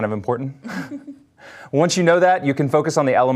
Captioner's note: chuckles